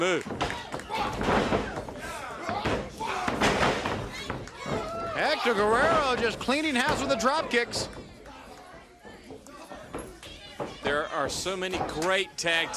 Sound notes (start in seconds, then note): 4.0 crowd cheering